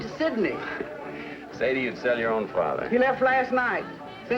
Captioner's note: chuckles